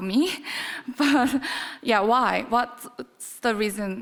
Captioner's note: chuckles